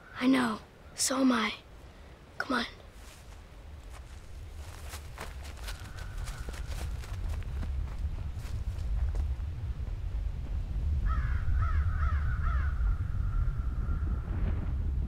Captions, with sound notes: - I know, so am I, come on. (crows cawing) (low rumbling)